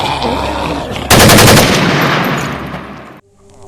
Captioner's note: groaning Intensifies; gun Shots